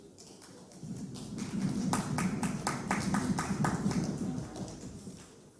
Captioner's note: applause